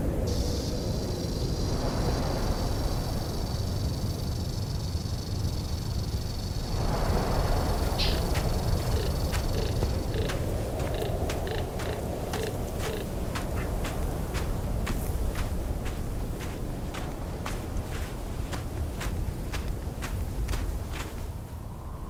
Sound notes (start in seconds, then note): 0.2 rattle snake rattling; 7.9 walking noises; 8.9 various desert noises